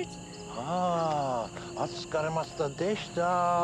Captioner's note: speaking Japanese